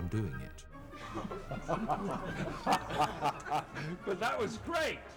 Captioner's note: all laughing